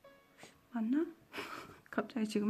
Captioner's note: giggles